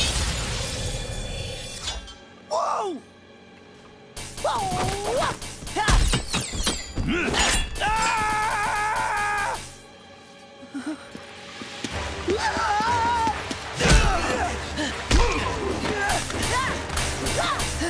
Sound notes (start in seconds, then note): 4.2 grunting; 7.7 screaming; 12.2 screaming; 13.5 grunting